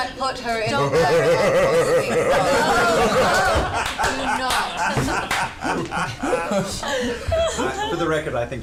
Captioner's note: laughter